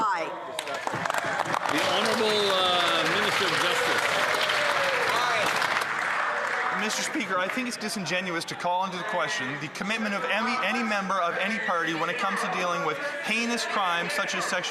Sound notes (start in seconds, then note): 9.3 some Applause